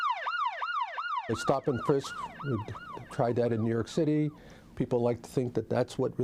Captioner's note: sirens